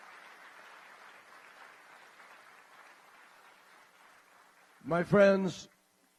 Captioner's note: applause